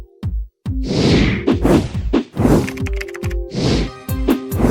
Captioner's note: mellow music; whooshing